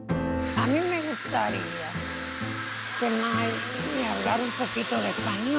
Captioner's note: piano music; speaks Spanish